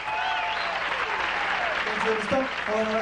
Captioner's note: audience cheering